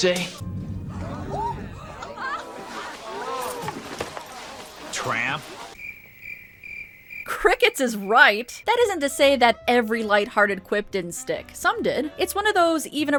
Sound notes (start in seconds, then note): 4.3 crickets